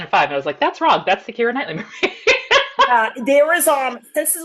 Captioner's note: laughs